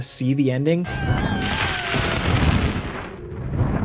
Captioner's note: Incubus shrieking; wings beating